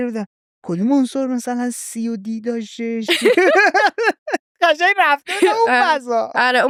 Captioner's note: laughs